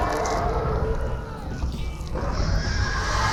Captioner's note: screams